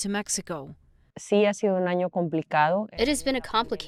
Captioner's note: speaking in foreign language